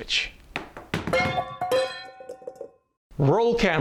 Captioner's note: sound effect; metallic objects crash down to the floor